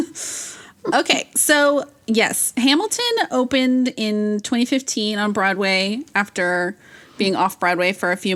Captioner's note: laughs